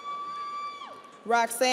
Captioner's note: audience cheers